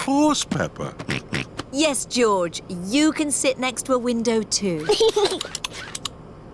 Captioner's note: snorts; giggles